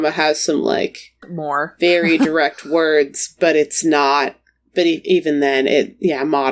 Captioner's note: laughs